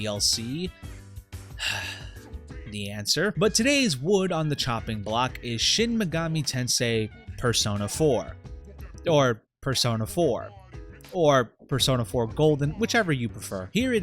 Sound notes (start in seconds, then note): 1.6 sighs